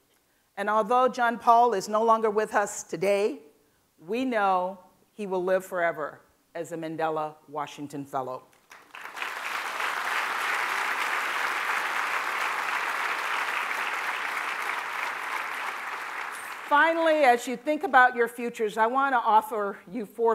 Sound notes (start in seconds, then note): 13.8 applause